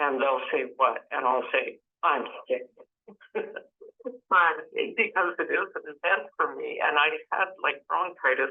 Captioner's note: laughs